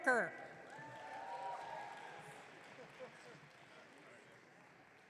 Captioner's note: audience cheering